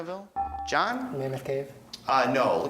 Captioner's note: beeping